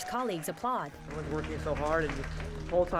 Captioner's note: \applause\